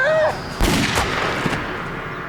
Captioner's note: fires gun